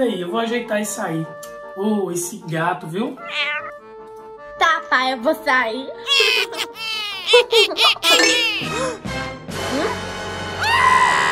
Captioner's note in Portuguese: Risos